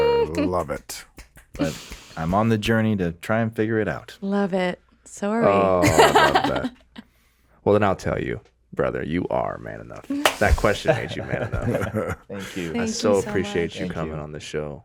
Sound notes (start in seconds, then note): 1.0 Justin snapping; 5.5 giggling; 10.8 all giggling